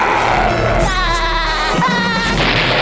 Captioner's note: growling; laughing